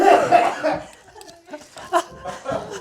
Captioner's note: coughing